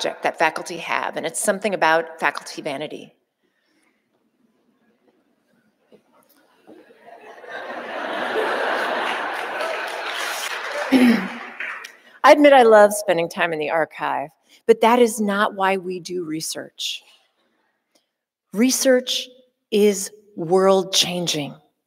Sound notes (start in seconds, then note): 6.7 audience laughing